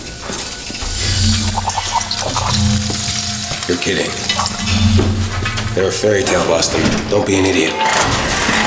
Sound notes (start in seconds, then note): 0.7 robot chirping and clicking